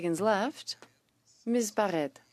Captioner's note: speaking French